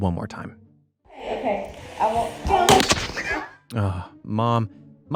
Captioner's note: ball crashes